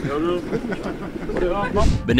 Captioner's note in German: Lachen